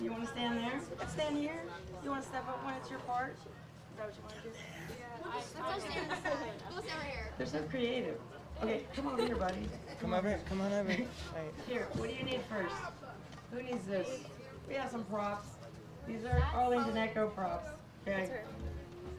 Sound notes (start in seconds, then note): 5.8 laughing; 14.0 children chatter